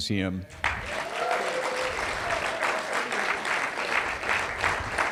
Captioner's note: cheers and applause